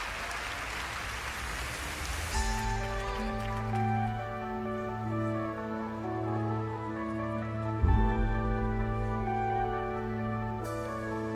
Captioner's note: cheers and applause